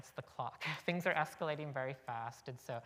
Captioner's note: chuckle